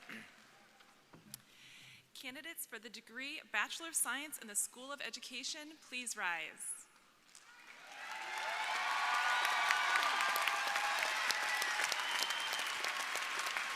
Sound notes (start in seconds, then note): 7.4 crowd applauding; 7.4 crowd cheering